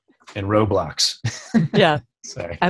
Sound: laughter

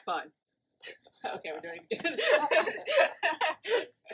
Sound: both laugh

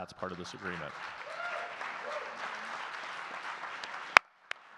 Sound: audience clapping

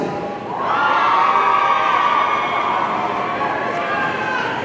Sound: audience cheering

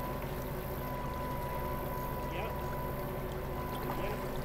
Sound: winch grating

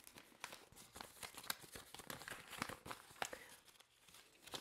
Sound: paper rustling

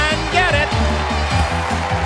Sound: cheers and applause

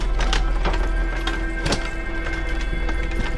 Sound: cart trundles

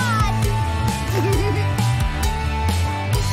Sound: giggling

